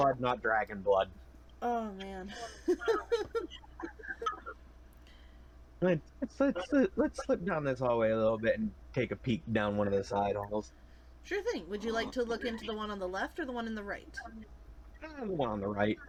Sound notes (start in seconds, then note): 1.9 laughs